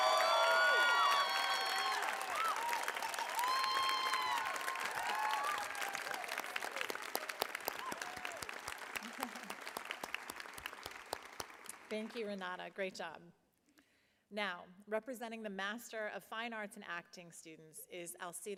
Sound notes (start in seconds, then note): 3.3 applause; 5.3 cheering